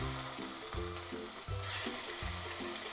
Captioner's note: sizzling